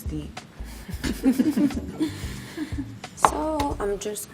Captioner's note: laughs